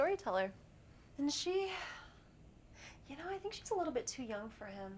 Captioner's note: sighs